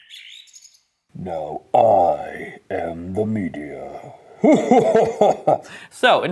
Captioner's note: voz profunda e gutural